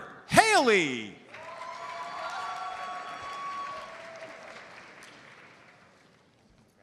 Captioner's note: audience cheers and applauds